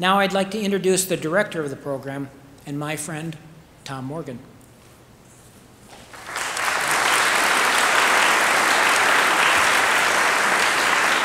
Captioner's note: applause